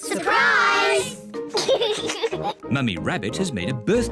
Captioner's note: laughs